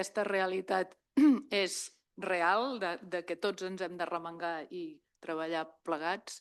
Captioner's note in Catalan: s'aclareix la gola